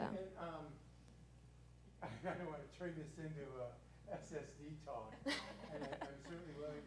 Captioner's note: laugh